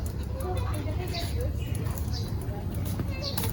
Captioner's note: birds